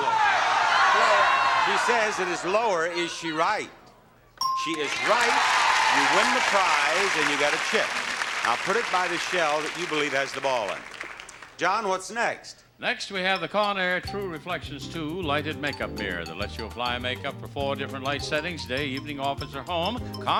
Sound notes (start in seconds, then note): 0.0 audience clamoring; 4.4 bell dings